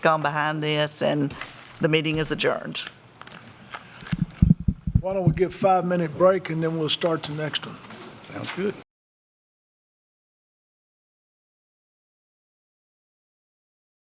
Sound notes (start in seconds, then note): 13.2 A pause